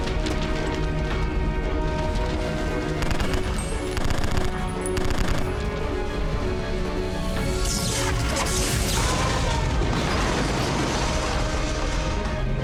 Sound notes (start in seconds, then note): 2.6 gunfire; 8.6 man screams; 9.8 objects clatter